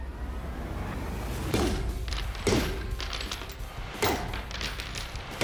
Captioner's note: banging